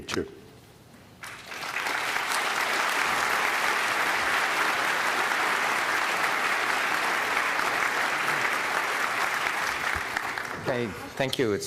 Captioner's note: applause